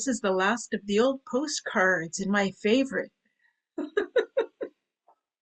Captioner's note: laughs